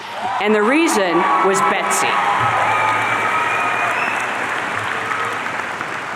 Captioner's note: audience cheering